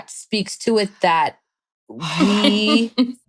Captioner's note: sighs; chuckles